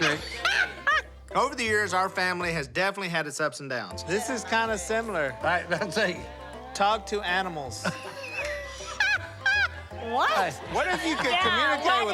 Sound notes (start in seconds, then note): 0.0 laughs; 7.8 laughter